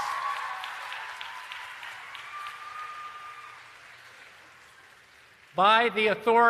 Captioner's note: applause and Cheering